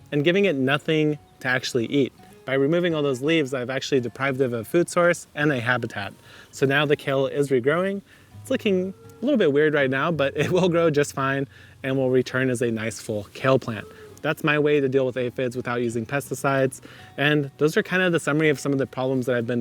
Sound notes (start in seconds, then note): 10.3 laughing